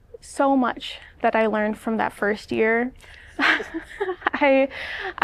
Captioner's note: laughter